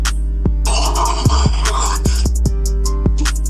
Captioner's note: dramatic huffing; dramatic snorting